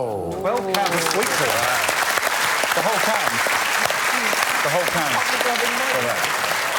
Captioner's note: applause